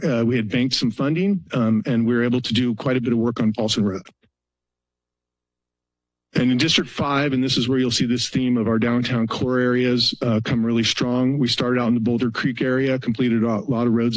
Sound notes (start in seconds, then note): 4.6 pause